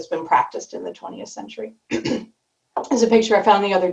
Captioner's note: clears throat